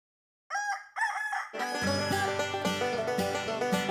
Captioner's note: rooster crows; banjo plays